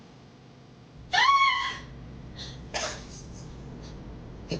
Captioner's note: Betty yells